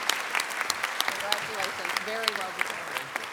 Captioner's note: applause